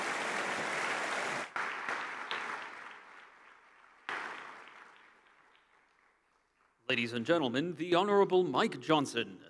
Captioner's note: applause